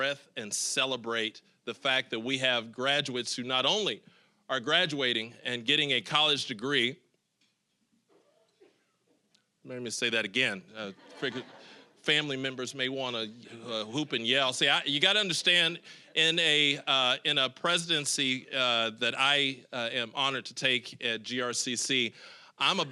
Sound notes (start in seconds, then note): 10.9 audience laughing